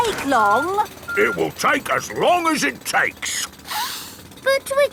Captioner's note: sniffs